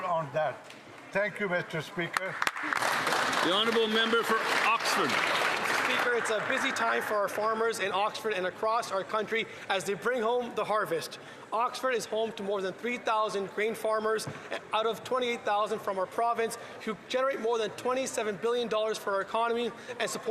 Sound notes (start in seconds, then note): 6.1 applause